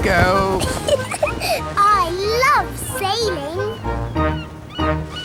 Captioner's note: giggles